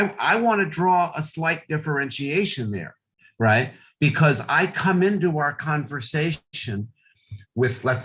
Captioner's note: none